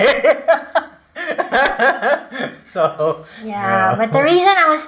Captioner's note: both laugh